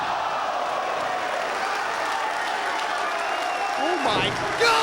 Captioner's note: audience cheering